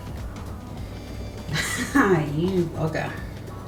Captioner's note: laughs